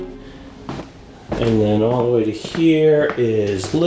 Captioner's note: footsteps clanging